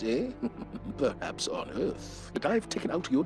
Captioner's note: snickering